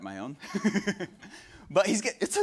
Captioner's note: laughs